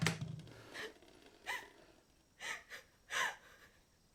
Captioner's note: crying